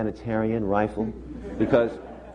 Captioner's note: laughter